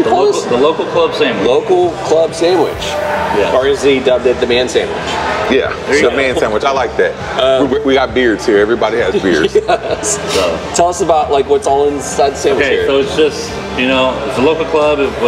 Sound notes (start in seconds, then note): 9.0 laughs